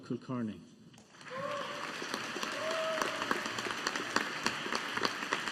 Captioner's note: audience applauding